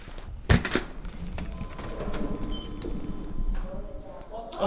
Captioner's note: door opening